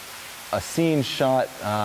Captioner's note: none